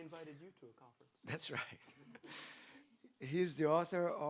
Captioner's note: chuckles